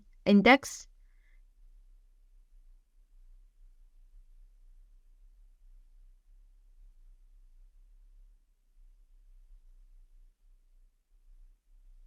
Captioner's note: silence